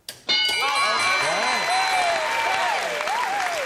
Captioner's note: ding; applause